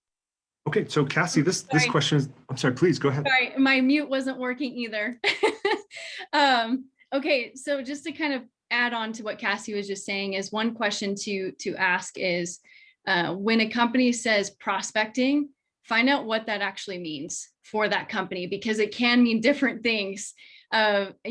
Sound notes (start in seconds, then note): 5.0 laughter